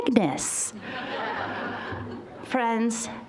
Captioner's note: audience laughing